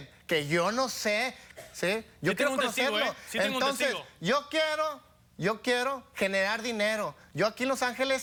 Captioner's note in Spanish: Hablan al unísono